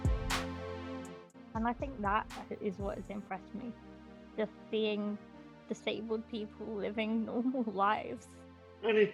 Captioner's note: laughs